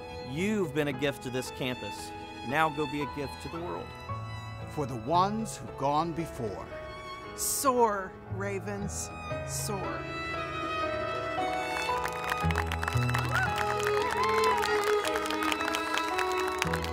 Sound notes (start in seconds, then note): 10.5 soft music; 11.4 cheer full applauds